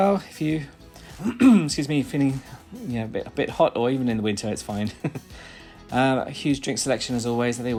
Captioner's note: cough